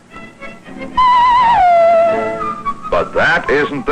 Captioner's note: weird sound effect